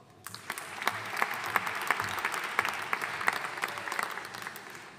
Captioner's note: audience applauding